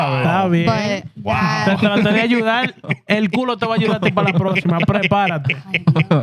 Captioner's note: laughter; speaking Spanish